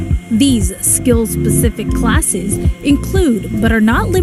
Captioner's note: voiceover